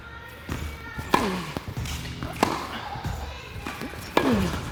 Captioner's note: rock music; ball thumping; grunts